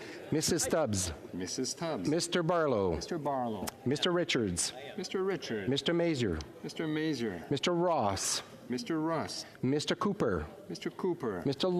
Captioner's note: calling of recorded vote